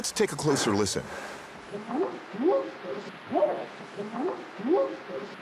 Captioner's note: whooping sound